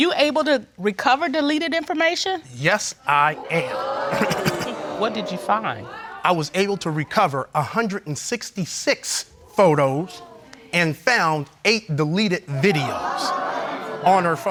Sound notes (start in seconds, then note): 3.2 audience exclaiming